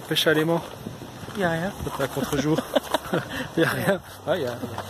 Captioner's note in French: rire